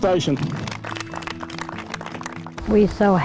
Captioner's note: applause